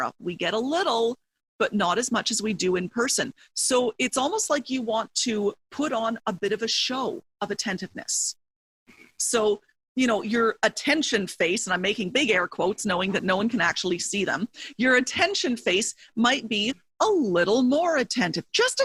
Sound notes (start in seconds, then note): none